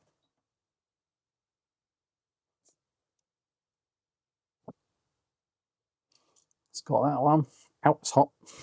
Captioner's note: silence